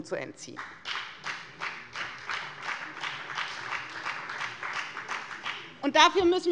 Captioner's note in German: Beifall bei der FDP und bei Abgeordneten der CDU